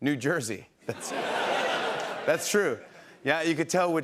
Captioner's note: laughter